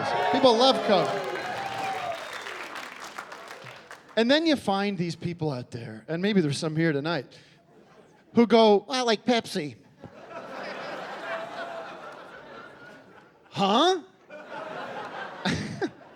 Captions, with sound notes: People love Coke. [cheering and applause] And then you find these people out there, and maybe there's some here tonight, who go, "I like Pepsi." Huh?